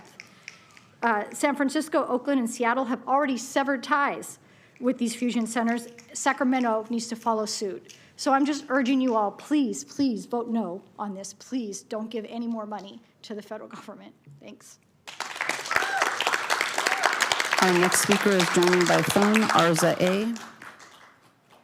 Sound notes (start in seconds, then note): 18.5 applause; 19.7 cheering/Applause